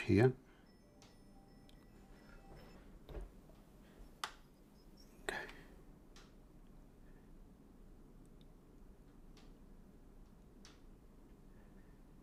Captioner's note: silence